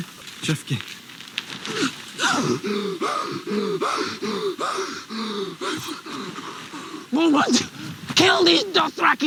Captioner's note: speaks Dothraki